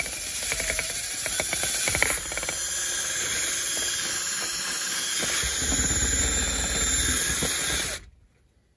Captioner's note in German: Geräusch einer elektrischen Bohrmaschine